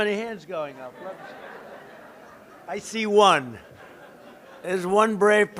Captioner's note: laughter